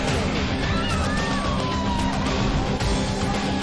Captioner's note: crowd screaming